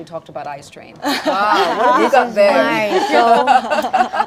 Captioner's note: crowd chatter